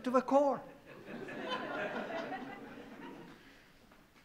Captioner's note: laughing